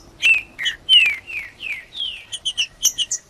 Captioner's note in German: trinca ferro cantando